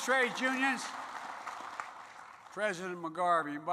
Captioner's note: applause